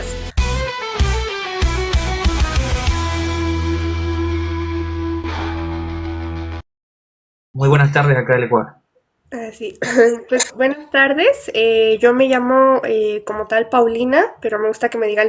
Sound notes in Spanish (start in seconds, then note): 9.8 carraspeo